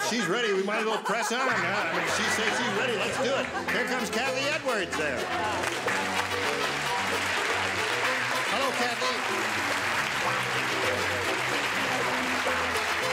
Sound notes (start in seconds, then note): 5.7 applauding